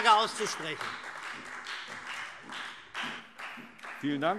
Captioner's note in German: Beifall SPD, AfD und Freie Demokraten